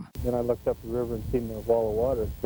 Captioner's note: voiceover